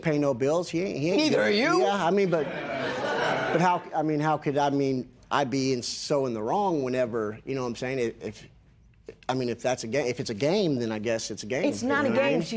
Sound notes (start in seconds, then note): 2.2 laughter